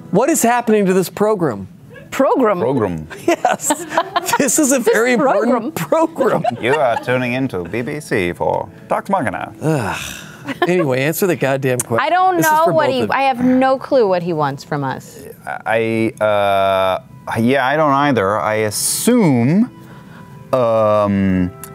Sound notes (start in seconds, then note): 6.5 radio voice